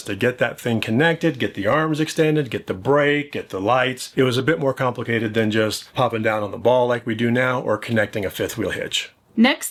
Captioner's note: none